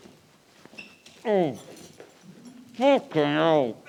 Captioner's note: he grunts